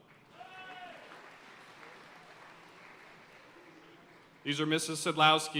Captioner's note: audience cheering and applauding